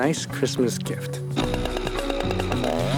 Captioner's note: chainsaw buzzing